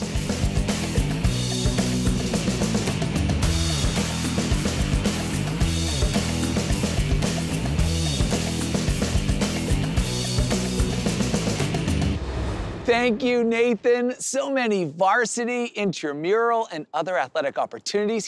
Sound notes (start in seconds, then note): 0.2 upbeat music; 11.8 whoosh